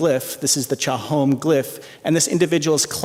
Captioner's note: non-english speech